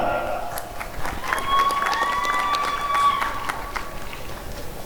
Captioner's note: applause and cheering